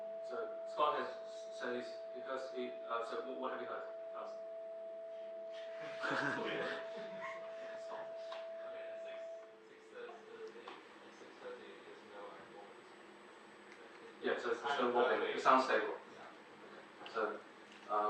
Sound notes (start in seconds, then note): 5.8 audience chuckle